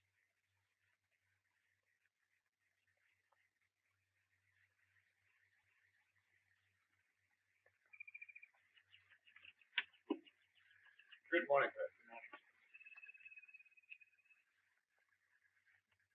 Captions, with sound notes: (birds chirping) Good morning, sir. Good morning.